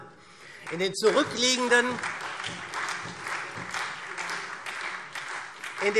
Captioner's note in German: Beifall SPD